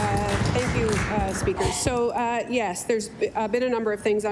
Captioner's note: applause